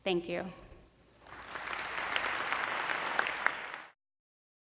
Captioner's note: applause